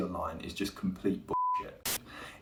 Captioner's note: beep